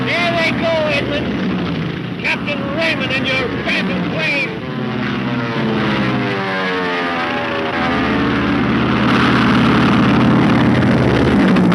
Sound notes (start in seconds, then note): 5.0 engine whining